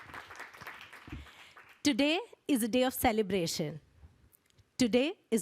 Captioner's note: applause